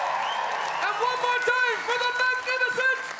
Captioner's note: audience Cheer